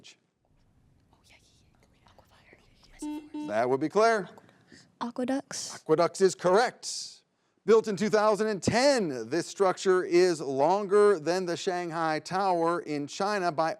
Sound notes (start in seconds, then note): 3.0 button blips